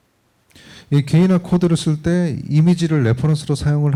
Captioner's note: speaking korean